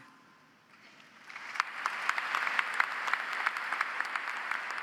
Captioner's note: audience applauds